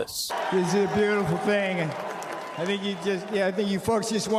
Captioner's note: cheers and applause